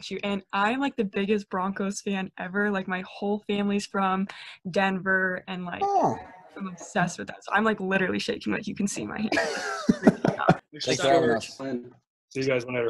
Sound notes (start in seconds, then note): 9.2 laughs